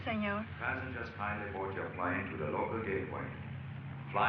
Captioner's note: man on PA